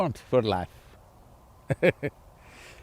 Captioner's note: laughs